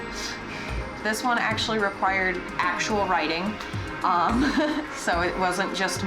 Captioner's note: laughs